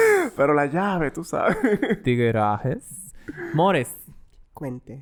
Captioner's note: laughs; laughs